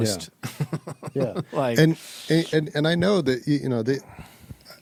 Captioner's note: laughing